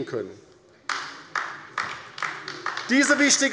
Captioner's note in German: Beifall bei der LINKEN